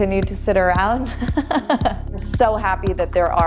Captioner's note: laughter